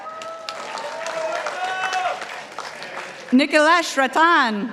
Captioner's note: participants applauding